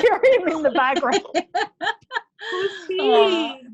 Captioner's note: laughs